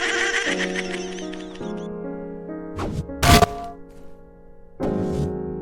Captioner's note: laughing proceeds